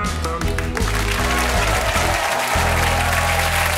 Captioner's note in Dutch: applaus en gejuich